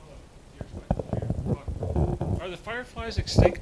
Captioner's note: distant talking